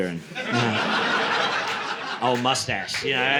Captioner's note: laughter